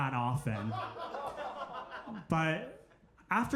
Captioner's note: crowd laughs